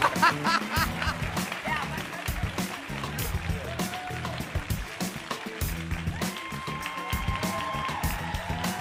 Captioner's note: laughter